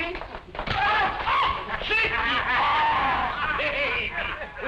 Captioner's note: screams; laughter